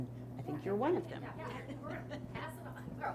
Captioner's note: chuckles